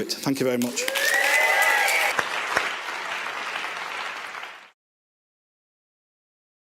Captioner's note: applause